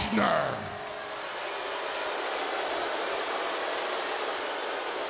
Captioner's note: crowd booing